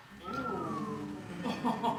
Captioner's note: audience gasps; laughter